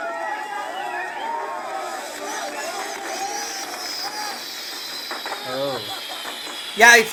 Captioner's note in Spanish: Aplausos